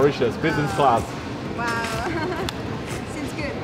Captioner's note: laughs